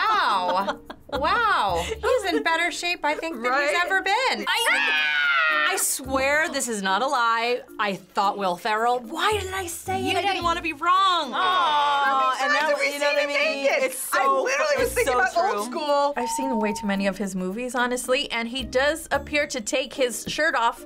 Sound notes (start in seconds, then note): 4.6 screaming